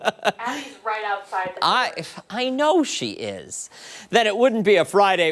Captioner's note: laughter